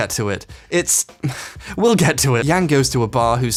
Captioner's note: scoffs